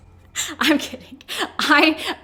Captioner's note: laughs